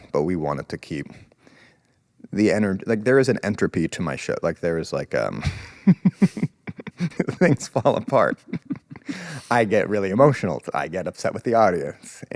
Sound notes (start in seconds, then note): 5.4 laughs